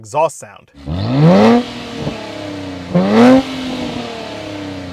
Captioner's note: car engine revs